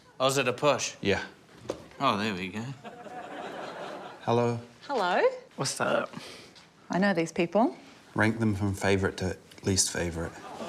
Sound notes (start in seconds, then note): 2.7 audience laughs